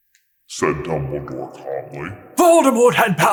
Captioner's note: slo and deep